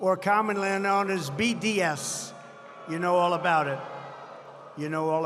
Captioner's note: applause